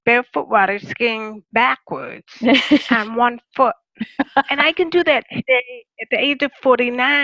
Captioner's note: laughter